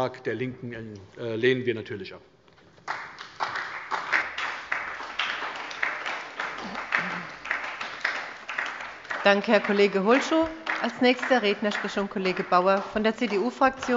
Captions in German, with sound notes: Den Antrag der LINKEN lehnen wir ab. [Beifall bei der SPD] Danke, Herr Kollege Holschuh. - Als nächster Redner spricht nun Kollege Bauer von der CDU-Fraktion.